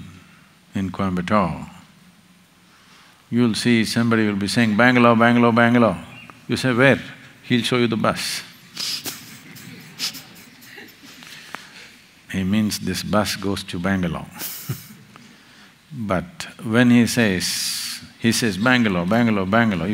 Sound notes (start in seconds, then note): 8.6 laughs; 11.3 laughter